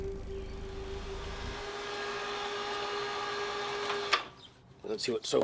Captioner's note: whirring sound